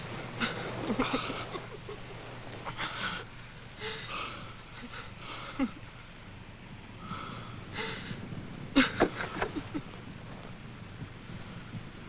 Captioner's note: laughing